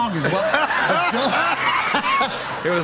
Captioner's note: laughter